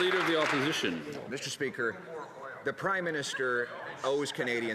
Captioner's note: some Applause